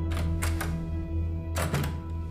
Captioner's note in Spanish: Ruido al abrir la puerta